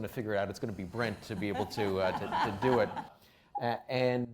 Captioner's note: laughing